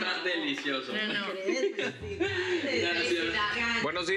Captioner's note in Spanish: risas